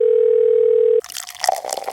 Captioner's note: phone rings; coffee pours